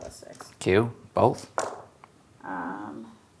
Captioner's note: dice rolling